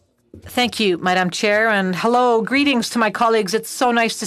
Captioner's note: speaking FRENCH